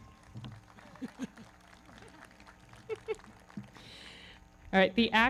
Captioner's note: various people laughing